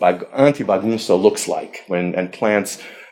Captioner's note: speaking foreign language